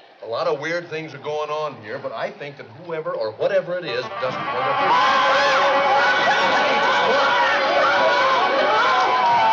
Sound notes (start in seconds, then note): 4.6 screaming